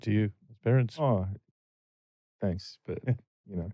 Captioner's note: laughter